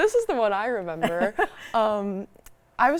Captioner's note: laughs